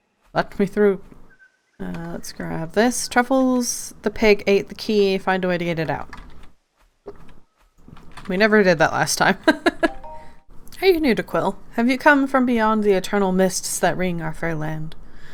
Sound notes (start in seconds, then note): 9.4 laughs